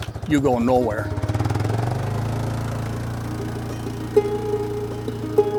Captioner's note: ATV engine; soft acoustic music